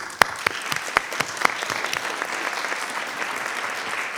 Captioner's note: audience applauding